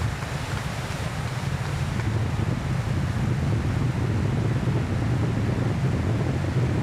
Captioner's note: applause